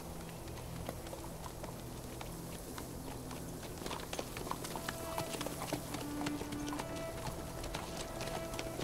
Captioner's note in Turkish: At Ayak Sesleri